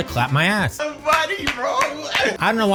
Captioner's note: ass clapping sounds